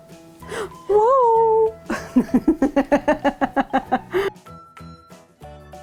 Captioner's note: laughing